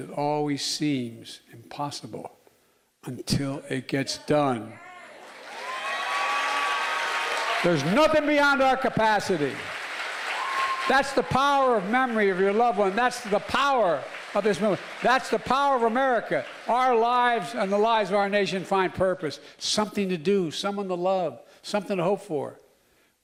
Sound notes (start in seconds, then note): 9.7 applause